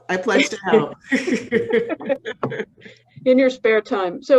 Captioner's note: panelists laughing